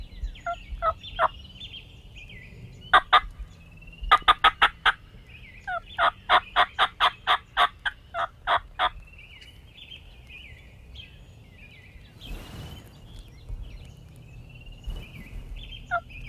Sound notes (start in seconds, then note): 10.9 birds chirping